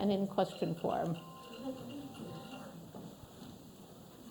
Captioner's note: phone ringing